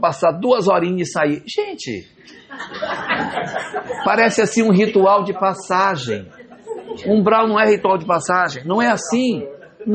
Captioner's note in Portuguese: risadas